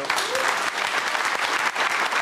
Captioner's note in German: Applaus